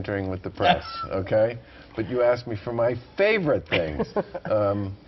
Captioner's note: laughter